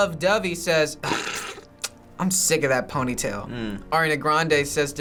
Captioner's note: snickers